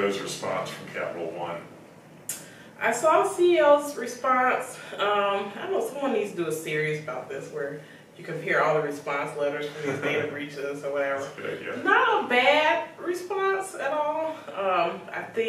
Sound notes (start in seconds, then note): 11.3 laughs